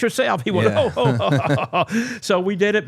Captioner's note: laughs